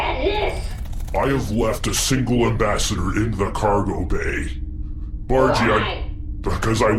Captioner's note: wings beating